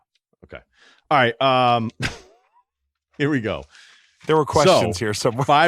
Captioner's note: laughs